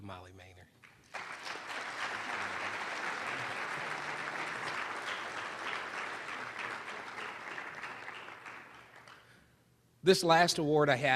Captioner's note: applause